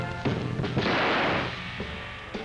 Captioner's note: gunshot